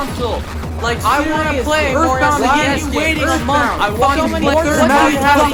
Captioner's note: commotion